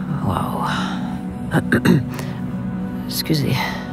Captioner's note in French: raclement de gorge